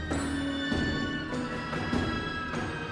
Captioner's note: none